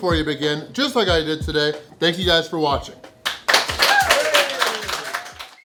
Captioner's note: crowd cheering